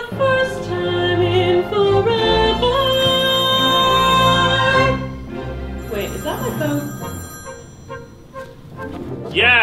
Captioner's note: phone rings